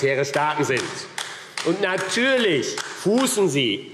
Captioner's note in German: Beifall AfD